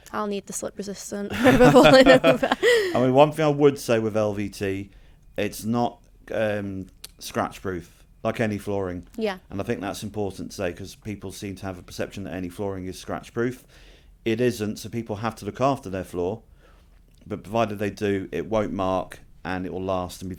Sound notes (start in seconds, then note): 1.3 laughing